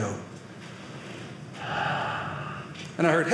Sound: breathing sounds

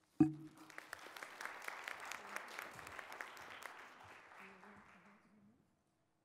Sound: audience applauds

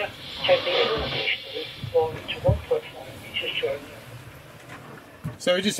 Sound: boat creaking drowns out radio

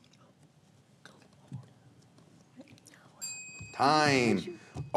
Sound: faintly speaking

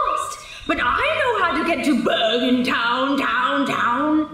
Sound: echoing

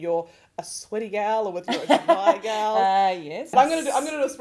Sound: host laughs

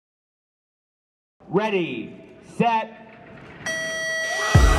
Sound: buzzer; cheering and music

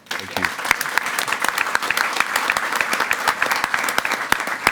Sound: everyone applauding

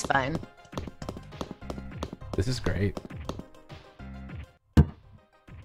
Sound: footsteps

